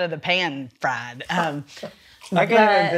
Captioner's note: laughs